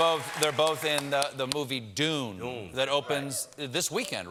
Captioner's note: cheers and applause